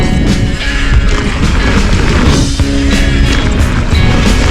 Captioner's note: upbeat guitar playing; bike rattling